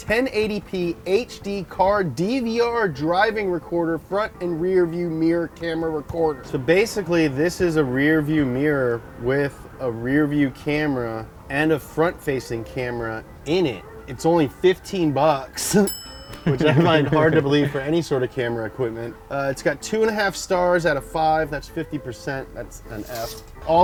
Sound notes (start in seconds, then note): 15.8 bell dings; 16.4 laughs